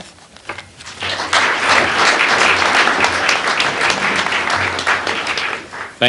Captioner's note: applause